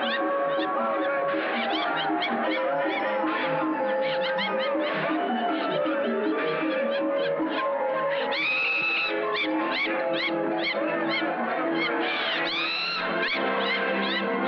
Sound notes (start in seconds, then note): 8.0 laughing